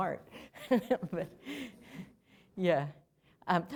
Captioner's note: laughter